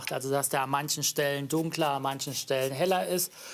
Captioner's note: none